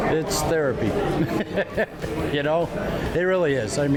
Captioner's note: laughs